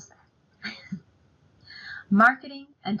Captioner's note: laughs